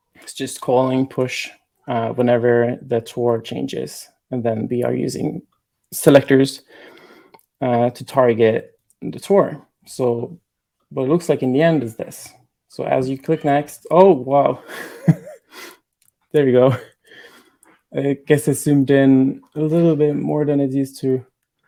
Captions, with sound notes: it's just calling push whenever the tour changes. And then we are using selectors to target the tour. But it looks like in the end is this. So as you click next... Oh wow! (laughing) There you go. I guess it's zoomed in a little bit more than it used to.